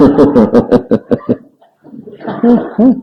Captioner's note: laughs